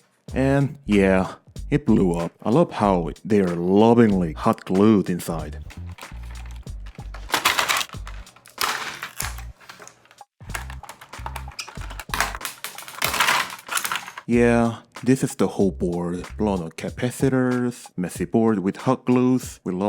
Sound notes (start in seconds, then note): 5.7 more unscrewing noises; 7.2 lid fall offs; 7.8 unscrewing continues; 9.1 glue peels off; 10.4 more tearing down noises